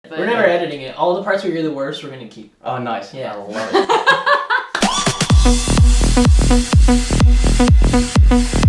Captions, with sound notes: - We're never editing it all the parts where you're the worst, we're gonna keep. - Oh nice, I love it. - yeah. (laughing) (upbeat music)